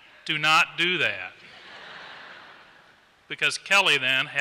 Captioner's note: laughter